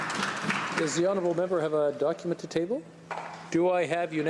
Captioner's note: applause